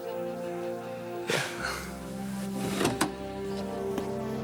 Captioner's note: John laughs